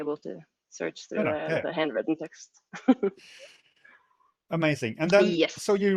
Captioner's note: laughs